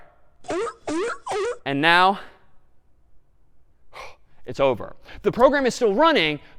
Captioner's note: sea lion barking